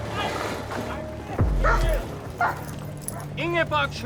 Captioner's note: dog barks